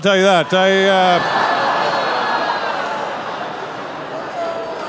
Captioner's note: audience laughing